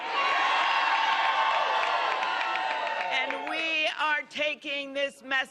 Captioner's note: cheers and applause